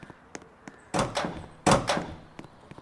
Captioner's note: doors Opening